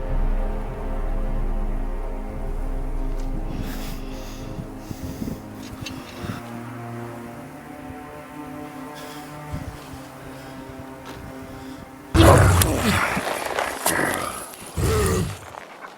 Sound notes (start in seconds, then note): 12.1 grunting